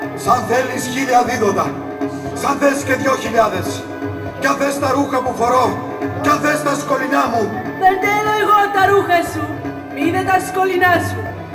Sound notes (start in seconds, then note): none